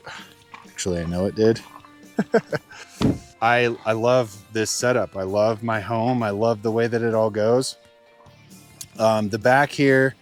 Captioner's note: laughs